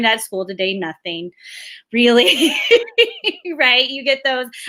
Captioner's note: laughs